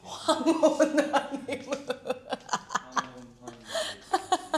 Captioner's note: bewildered laughter